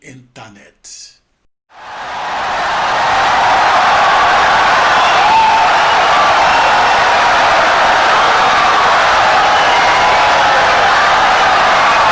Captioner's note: wild applause and cheering for 17 seconds